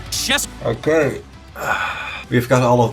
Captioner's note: sighs